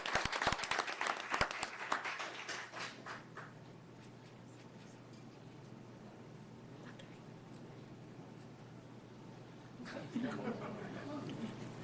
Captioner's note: applause